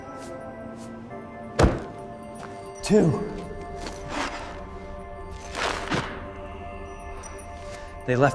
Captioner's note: footsteps thud; ice scrapes